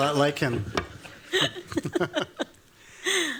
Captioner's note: laughter